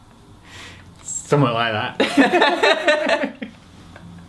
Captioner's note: laugh